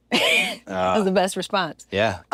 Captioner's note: laugh